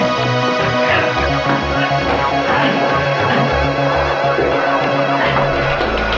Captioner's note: gasping; mechanical buzzing